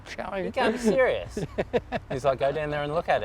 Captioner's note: laughs